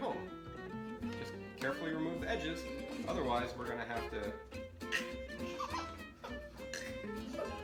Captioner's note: makes gagging noise